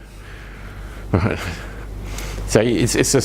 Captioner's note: murmur of assent